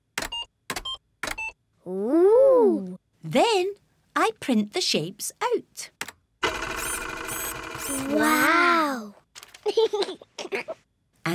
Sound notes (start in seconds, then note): 0.1 computer beeping; 6.4 printer whirring; 9.6 giggles